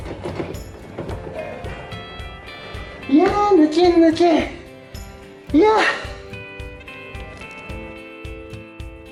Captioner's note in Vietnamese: cười